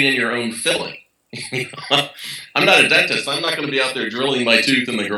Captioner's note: laugh